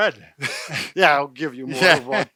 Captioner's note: both laugh